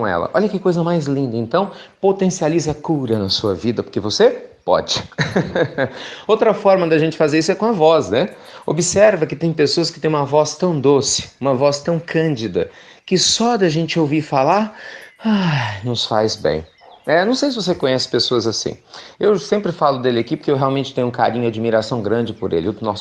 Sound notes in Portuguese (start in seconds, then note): 4.9 Risos